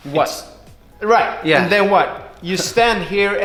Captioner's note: chuckles